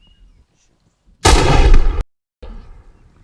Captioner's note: gun fires